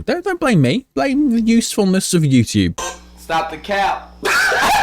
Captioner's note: laughing